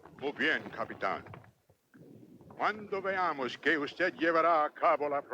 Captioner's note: Victorio speaks Spanish